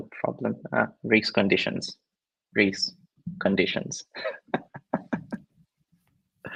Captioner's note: laughs